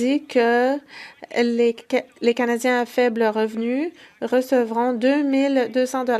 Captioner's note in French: voix de l'interprète